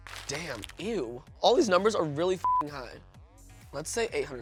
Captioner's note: beep